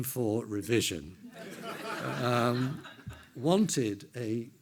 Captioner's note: everyone laughs